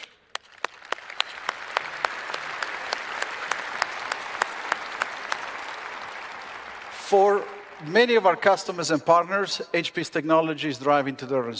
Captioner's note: applause